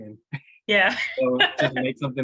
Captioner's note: laughs